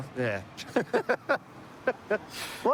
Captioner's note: laughter